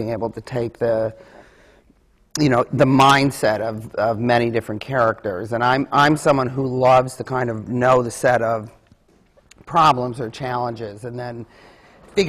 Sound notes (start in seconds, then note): none